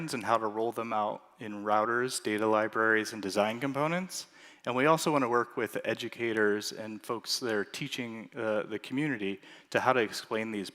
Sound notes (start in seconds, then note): none